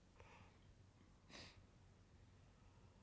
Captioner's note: Rose sniffles again